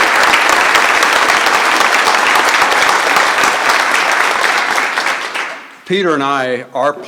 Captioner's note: applause